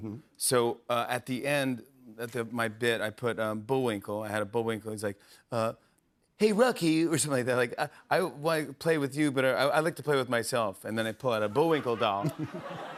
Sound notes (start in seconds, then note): 6.1 as Bullwinkle; 7.2 normal voice